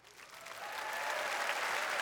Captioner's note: applause